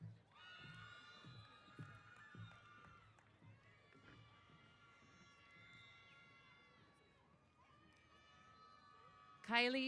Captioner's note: applause & Cheers